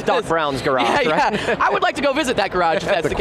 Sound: panel hosts laughing

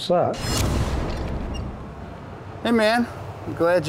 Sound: whooshing

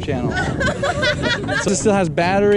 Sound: girls laughing

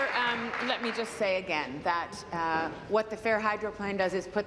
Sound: applause

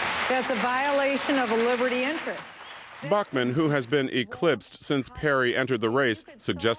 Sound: applause

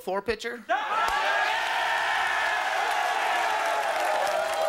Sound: audience cheering

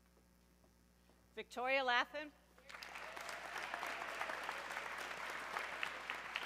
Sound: audience clapping

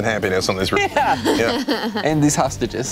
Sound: laughing

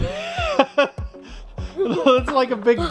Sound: laughs

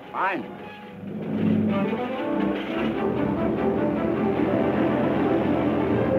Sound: adventurous music; engine roaring

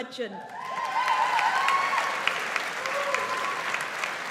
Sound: audience applauds

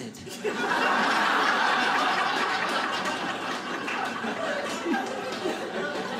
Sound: audience laughing

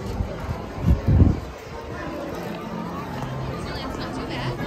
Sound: wind rumbling

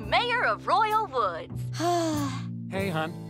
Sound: sighing

